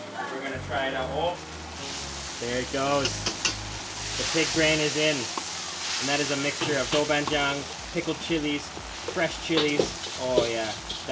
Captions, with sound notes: and we're gonna try it out, oh-- (pig brain sizzling) There it goes. The pig brain is in. And that is a mixture of doubanjiang pickled chilies, fresh chilies, oh yeah.